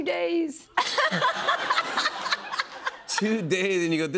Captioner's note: laughter